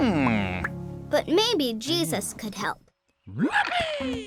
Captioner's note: voiceover